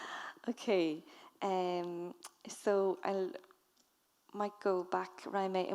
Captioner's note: speaking in foreign language